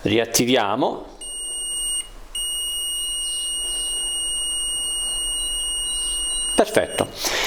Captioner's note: buzzer sound